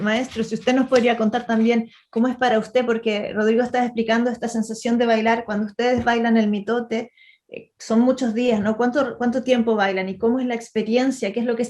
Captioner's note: asks the Ma’arakame in Spanish